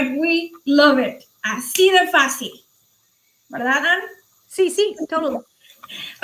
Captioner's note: speaking foreign language